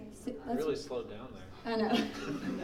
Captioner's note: laughing